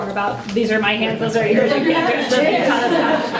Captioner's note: laughter